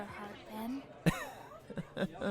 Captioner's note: laughs awkwardly